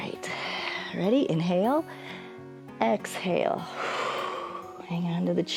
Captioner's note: inhales; exhales